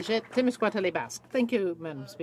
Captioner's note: speaking French